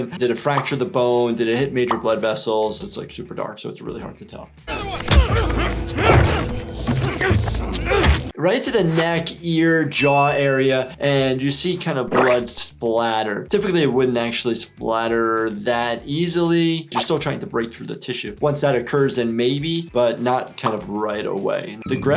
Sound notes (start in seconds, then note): 4.7 man punching; 5.9 grunting; 7.7 weapon smacking